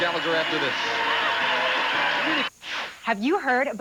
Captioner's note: audience applauding